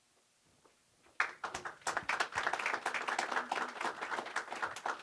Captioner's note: applause